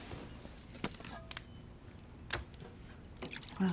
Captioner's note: pours liquid